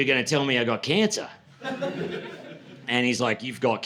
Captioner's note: laughter